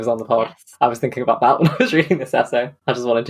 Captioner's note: laughing